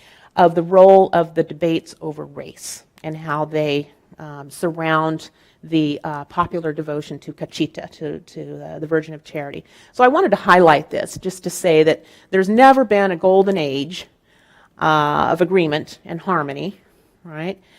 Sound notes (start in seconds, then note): none